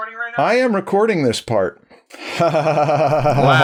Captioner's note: giggles